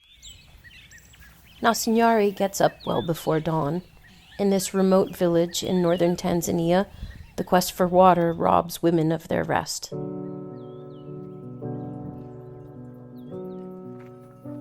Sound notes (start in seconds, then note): 0.0 birds chirping; 9.8 gentle music